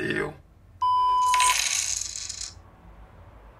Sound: cash app notification sounding

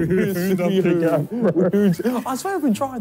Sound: laughing

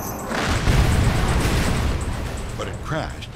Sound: plane crashes

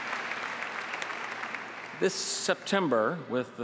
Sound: applause

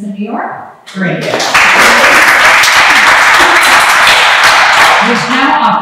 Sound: applause

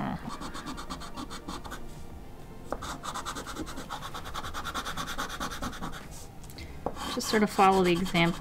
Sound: even more soothing scraping sounds

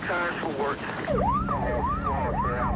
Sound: siren

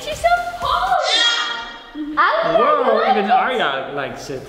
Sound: baby cries out

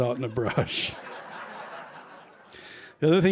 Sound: laughter

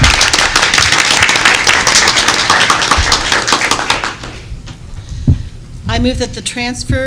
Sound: applause

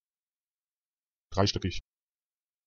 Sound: fast Pronunciation

